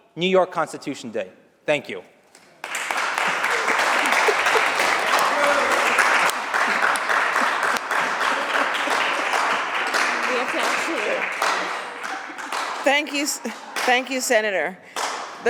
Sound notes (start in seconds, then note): 2.6 applause